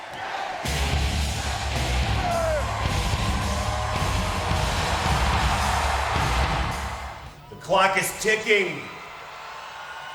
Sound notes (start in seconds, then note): 0.6 dramatic music; 4.7 audience cheers